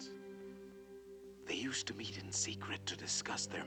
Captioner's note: whispering